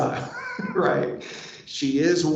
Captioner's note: laughs